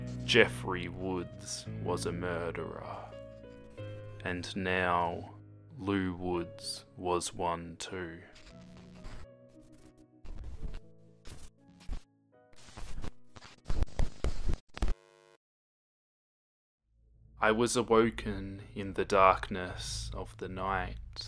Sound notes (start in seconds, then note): 12.9 loud static noise